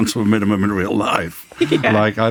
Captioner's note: giggles